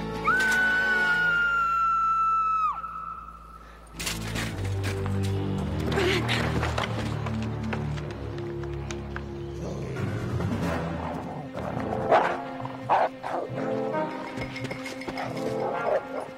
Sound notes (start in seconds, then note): 0.6 Caitlin screaming; 10.2 wolf growling